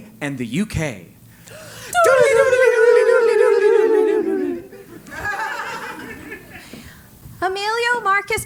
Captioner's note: laugh